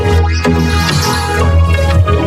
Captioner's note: bell dings